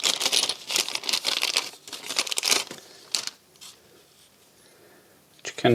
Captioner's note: plastic crinkling